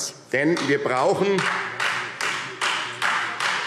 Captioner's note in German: Beifall Freie Demokraten